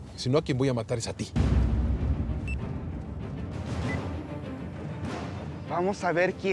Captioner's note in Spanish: Bip